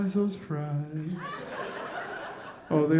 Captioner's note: audience laughing